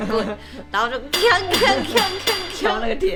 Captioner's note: clang